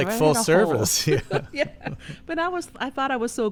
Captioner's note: laughter